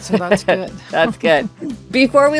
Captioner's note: laughs